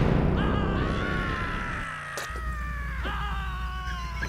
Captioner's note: bikers yell